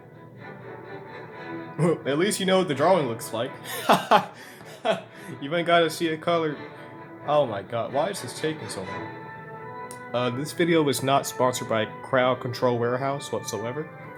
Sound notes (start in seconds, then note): 3.6 laughter